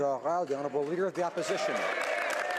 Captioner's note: applause